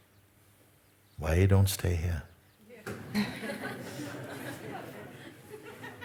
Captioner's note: laughter